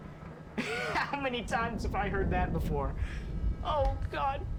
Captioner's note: laughs; chuckles